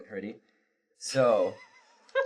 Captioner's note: laughter